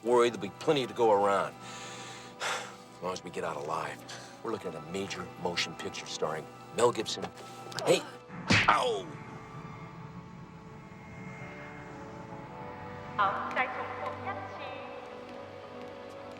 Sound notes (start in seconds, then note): 8.4 smack